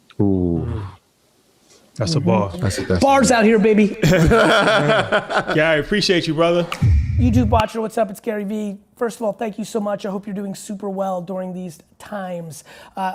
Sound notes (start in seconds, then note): 4.0 laugh; 6.8 logo thudding